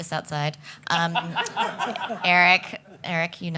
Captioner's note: laughing